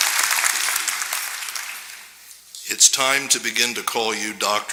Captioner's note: applause